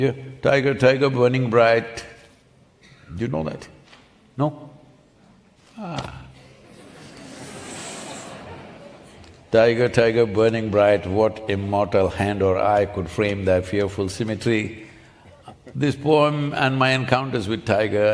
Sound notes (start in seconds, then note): 6.4 few Laughs